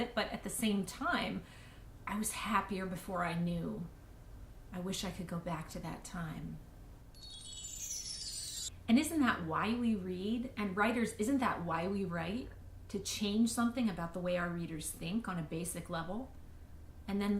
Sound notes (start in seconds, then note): 7.2 chimes